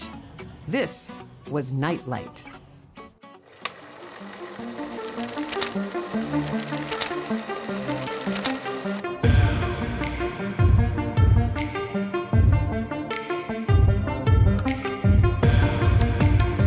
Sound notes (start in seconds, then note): 8.8 film reel whirring; 8.8 upbeat electronic music